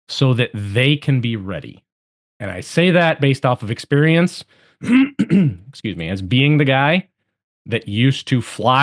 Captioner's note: cough